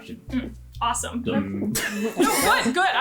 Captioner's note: laughter